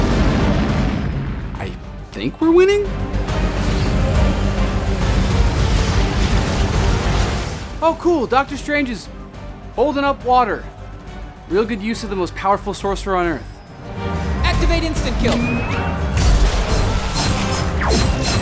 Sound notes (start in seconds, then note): 0.0 spaceship explosions; 5.5 water whooshing; 15.3 suit beeps